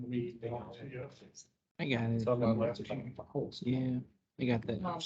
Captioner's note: indistinct chatter